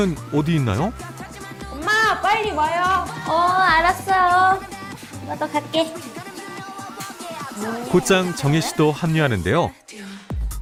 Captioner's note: voiceover